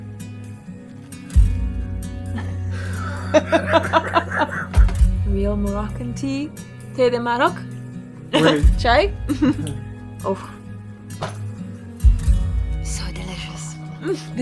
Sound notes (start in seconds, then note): 0.3 soft acoustic music; 2.3 laughs; 7.0 speaks foreign language